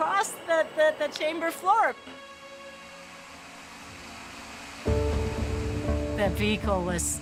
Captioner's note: blades whirring